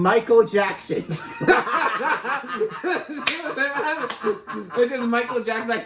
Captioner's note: laugh in unison